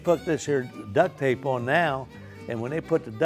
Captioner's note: scoffs